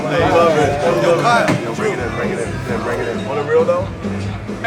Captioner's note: group chattering